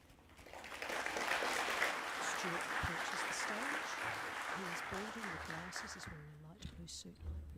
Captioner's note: applause